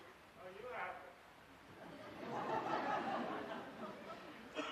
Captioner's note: laughter